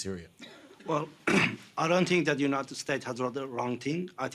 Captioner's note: clears throat